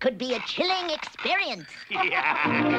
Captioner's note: laughs; chiming music